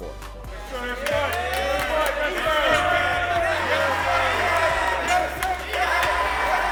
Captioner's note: cheering